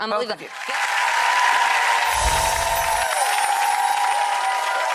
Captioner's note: audience cheering